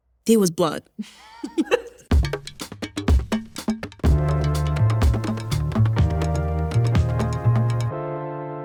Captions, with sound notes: there was blood. (laughs)